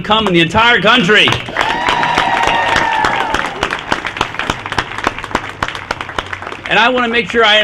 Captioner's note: applause